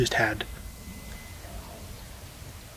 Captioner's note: bull bugling